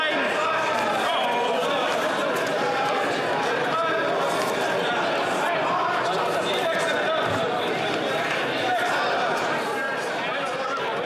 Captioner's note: yelling